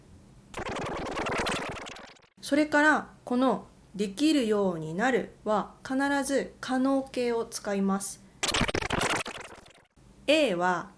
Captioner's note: rewind sound